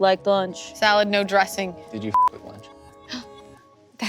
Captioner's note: beep